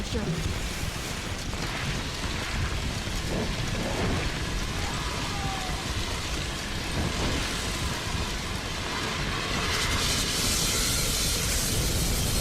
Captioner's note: sounds of a fire extinguisher being used